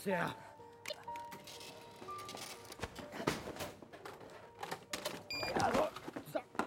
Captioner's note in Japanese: レジの操作音